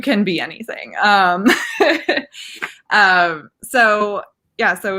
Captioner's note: laughing